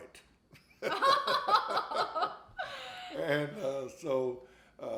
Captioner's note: both laughing